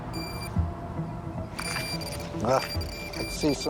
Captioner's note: beeping